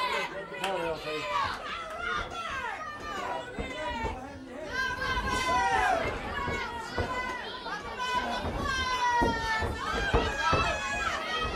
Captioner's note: crowd chatter